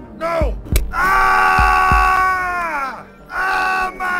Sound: screaming in pain

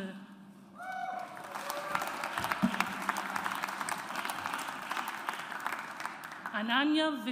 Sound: audience applauds

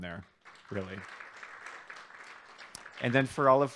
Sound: applause

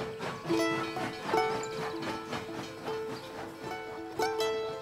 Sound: charango music; steam train engine noise

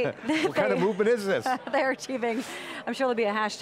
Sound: laughing

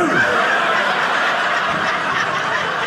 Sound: audience laughing

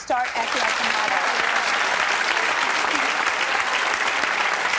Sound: applauding

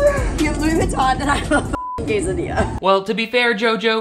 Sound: beep

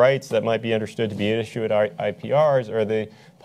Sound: none

